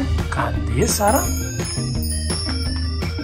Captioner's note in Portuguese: som de brilho